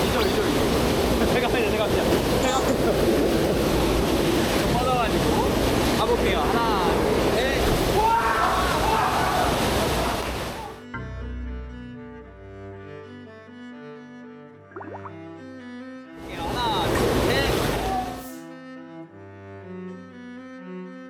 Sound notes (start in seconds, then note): 10.8 splash